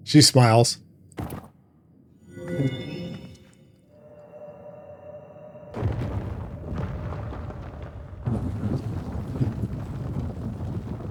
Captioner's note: thunder